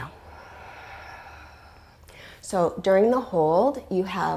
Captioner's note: deep breathing sounds